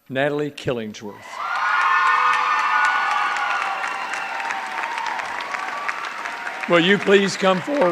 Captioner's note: cheers and applause